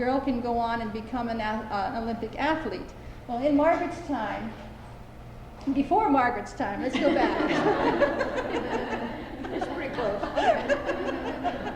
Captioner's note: laughter